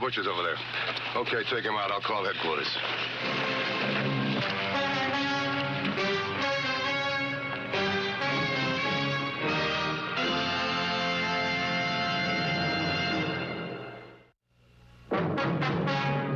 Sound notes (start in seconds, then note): none